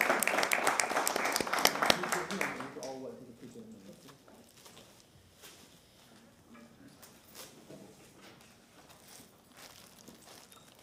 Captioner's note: applause